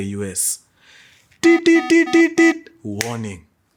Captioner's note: beeping sound